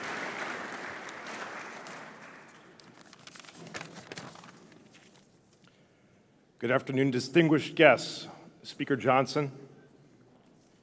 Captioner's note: cheers